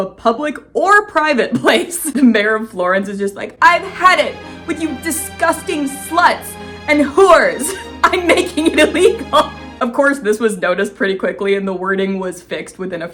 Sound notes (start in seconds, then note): 1.5 laughing; 3.6 dramatic music; 7.0 laughing